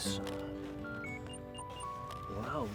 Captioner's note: beeping sounds